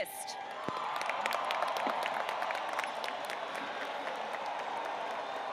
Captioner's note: audience cheering and applauding